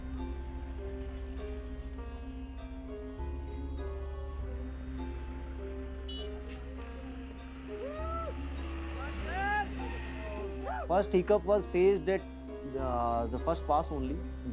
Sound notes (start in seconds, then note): 6.0 vehicle honking